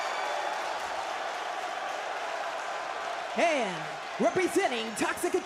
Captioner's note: crowd cheers